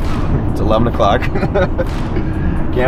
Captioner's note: laughs